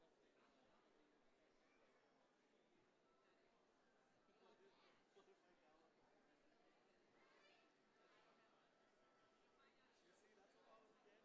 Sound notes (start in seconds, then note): none